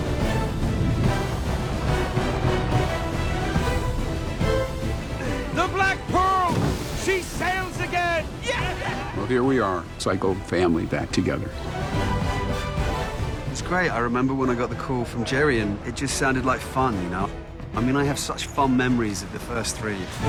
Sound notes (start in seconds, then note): 8.4 all cheering